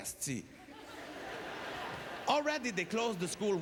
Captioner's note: audience laughter